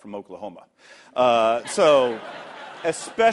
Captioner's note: laughter